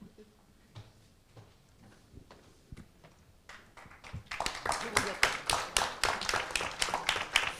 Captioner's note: applause